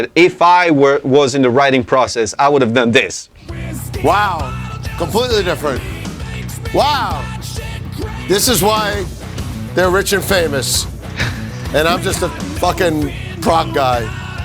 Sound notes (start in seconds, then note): 11.2 laughs